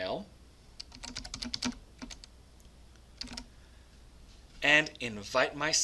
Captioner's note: typing noises